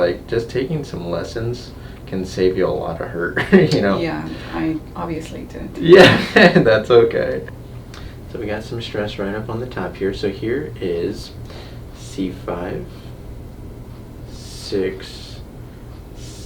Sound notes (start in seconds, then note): 3.2 chuckles